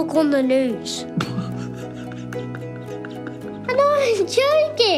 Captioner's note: laughing